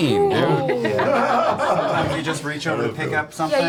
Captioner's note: all laugh